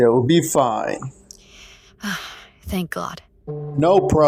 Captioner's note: sigh